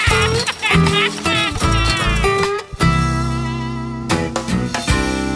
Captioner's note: sobbing